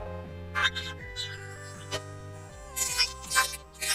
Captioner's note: chirping; squeaking